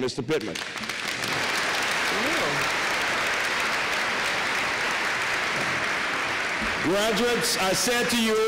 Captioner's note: applause